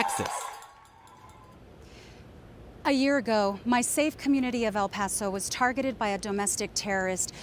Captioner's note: cheers and applause